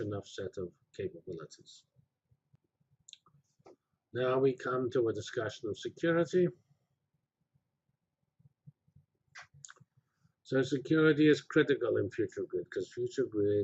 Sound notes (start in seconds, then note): 2.1 pause; 7.1 pause